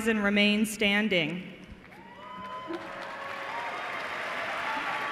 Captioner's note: cheers and applause